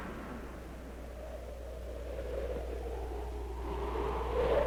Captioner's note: wind howling